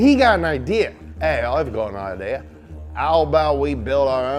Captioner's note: Australian accent